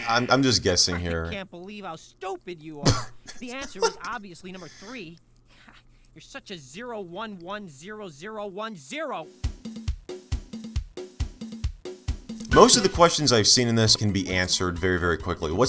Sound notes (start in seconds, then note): 2.8 subtly laughs; 9.3 ♫ lively in-game music ♫